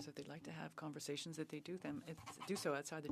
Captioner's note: speaking French